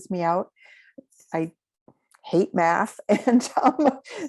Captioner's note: chuckles